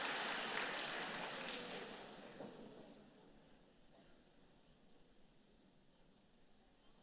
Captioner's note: applause